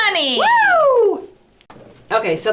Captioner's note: cheers